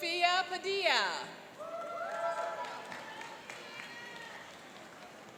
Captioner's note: cheering and applauding